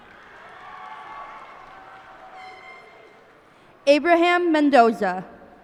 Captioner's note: cheers and applause